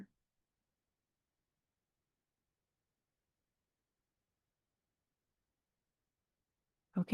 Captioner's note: silence